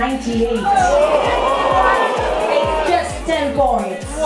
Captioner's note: voiceover; booing